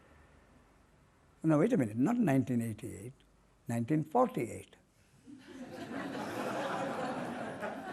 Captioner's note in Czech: smích